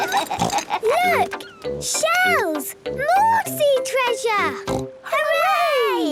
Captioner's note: laughs; snort